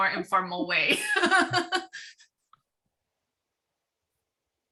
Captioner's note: laughing